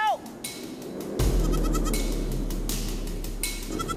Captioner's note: goat bleating